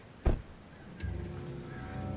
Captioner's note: door thuds; sinister music